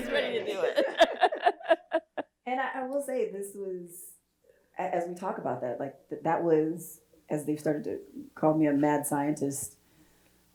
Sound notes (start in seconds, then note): 3.2 laughs